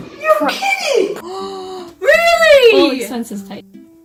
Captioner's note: gasping